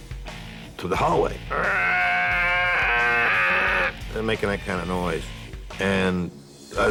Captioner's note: imitates metal grating